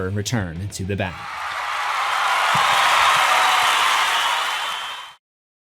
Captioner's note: crowd cheering